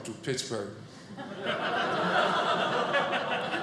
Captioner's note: audience laughing